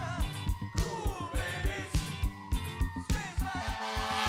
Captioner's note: sirens blare